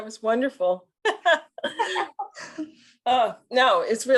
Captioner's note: laughter